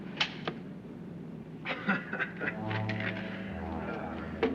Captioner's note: chuckles